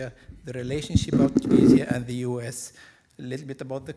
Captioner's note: microphone creaking